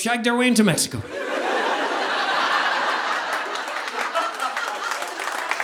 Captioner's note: audience laughing